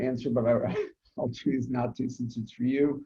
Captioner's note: laughs